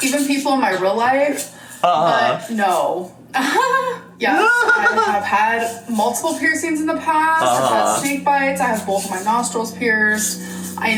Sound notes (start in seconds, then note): 4.3 giggles; 4.4 imitates giggle